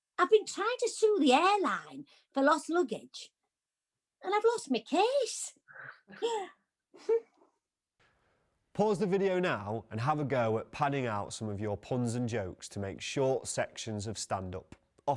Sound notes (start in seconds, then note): 7.0 laughs